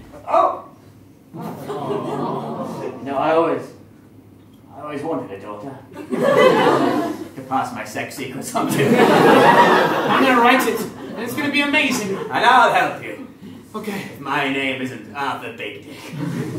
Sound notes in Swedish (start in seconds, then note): 1.3 publik: “Awwww”